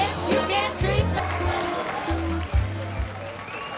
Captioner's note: crowd cheering